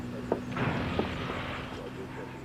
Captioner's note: crashing sound